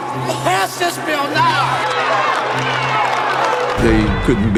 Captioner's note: cheering